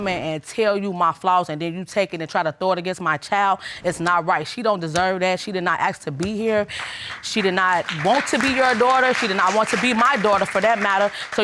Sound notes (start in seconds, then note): 6.8 audience applauding